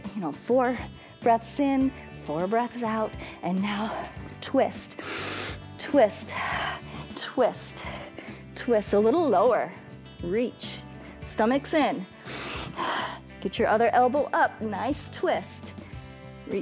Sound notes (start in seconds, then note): 5.0 inhales; 12.1 inhales and exhales